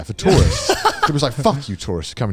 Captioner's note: laughs